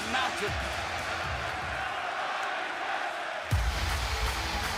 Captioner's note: crowd cheering